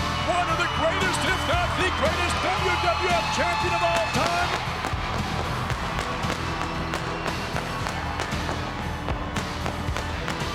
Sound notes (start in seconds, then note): 4.2 fireworks popping; 4.2 upbeat rock music